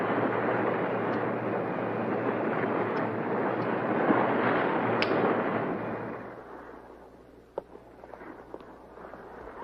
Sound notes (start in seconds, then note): 1.5 lighter clicking